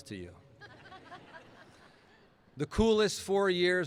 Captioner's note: laughing